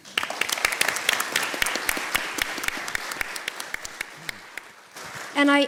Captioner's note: applause